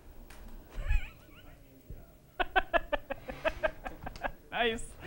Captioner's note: laughter